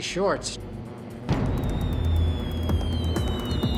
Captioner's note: bombs whistling